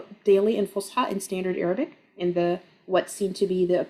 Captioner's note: speaking Arabic